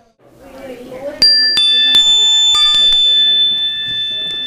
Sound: dong Sound

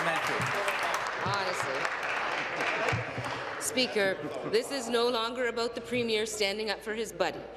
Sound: applause

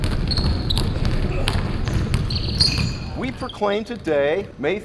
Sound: basketball dribbling

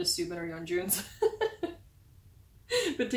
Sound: laughing

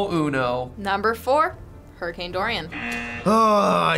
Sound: buzzer rings

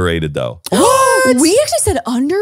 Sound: gasps

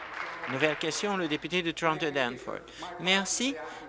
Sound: applause

